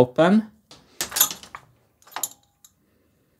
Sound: marble gate clicking

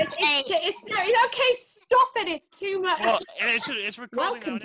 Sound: laughter; laughter

